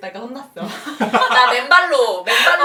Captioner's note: laughter